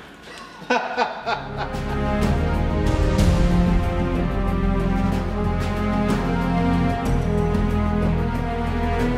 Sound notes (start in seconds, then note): 0.3 evil laugh; 1.8 majestic music